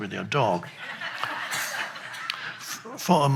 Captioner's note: crowd laughs